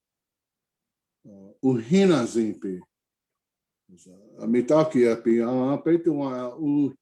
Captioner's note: speakes indigenous language